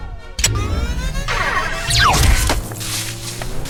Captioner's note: weapons zapping